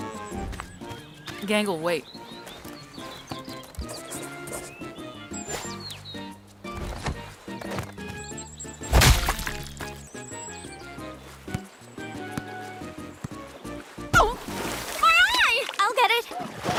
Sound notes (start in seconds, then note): 8.9 splat!